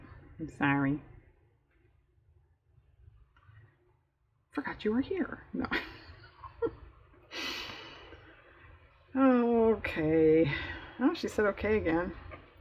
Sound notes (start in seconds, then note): 5.7 laughs